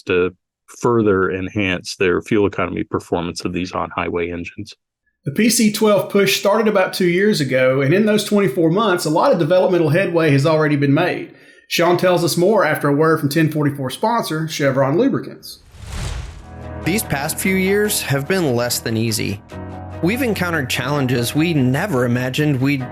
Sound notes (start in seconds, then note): 15.5 air whooshing